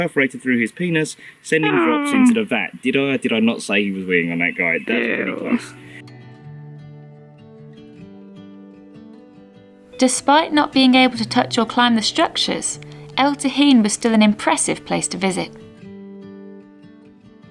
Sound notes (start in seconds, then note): 6.3 eww!